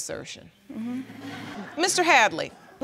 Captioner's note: audience laughs